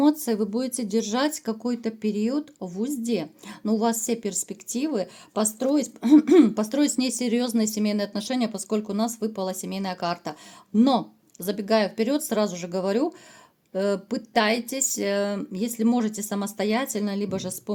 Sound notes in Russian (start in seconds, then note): 6.1 откашливается